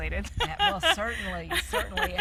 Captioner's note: laughs